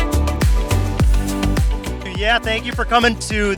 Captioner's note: voiceover